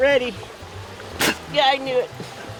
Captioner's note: spits